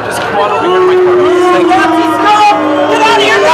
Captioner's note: shouting; booing